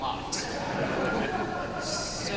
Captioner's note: laughter